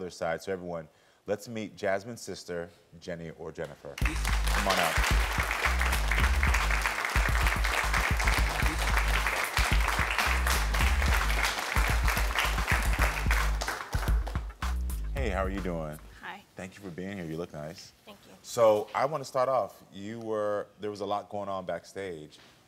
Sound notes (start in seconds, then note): 4.1 audience applauds; 6.3 upbeat music